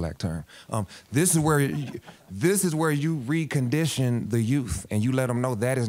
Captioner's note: audience laughing